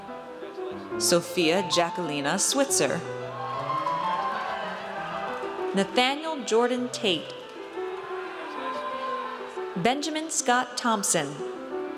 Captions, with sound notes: Sofia Jaquelina Switzer. (audience cheers) Nathanael Jordan Tait. (audience cheers) Benjamin Scott Thompson.